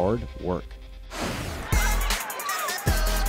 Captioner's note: air rushes; energetic electronic music